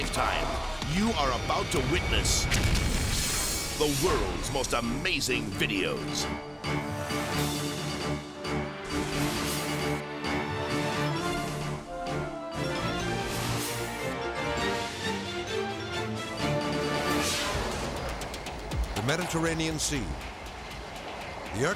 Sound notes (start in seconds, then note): 6.4 thrilling music; 14.5 thrilling music continues; 16.6 graphics whooshing; 20.2 tense music